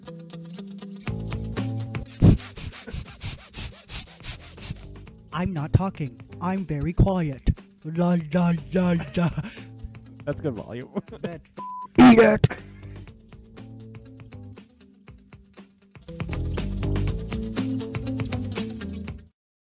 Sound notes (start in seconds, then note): 2.1 making noises with his mouth; 12.0 laugh